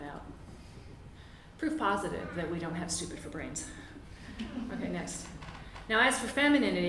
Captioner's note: laughter